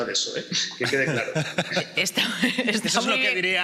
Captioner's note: laughter